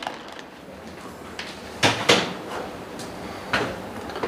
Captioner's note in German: Tür knarrt